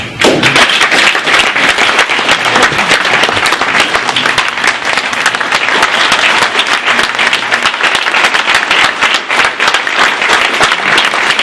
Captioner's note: clapping